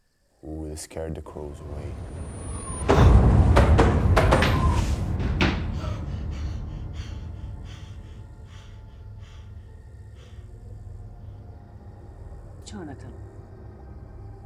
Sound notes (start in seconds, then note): 1.4 doors thudding; 2.4 loud ominous music; 5.7 Jonathan gasping; 6.1 soft tense music